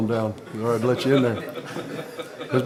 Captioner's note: laughing